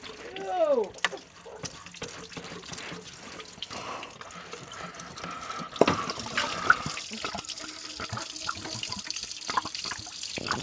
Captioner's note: water splashing